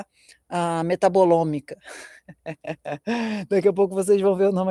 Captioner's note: laughter